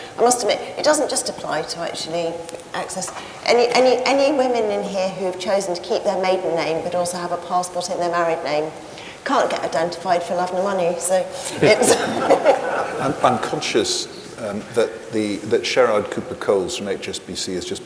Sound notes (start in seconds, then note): 11.4 audience laughs